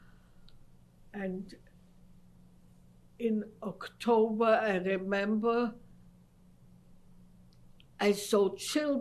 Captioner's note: pauses for 3 seconds